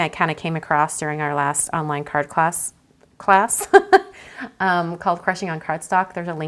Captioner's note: laughs